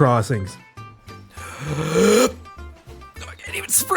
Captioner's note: inhale